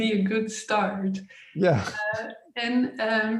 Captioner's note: chuckles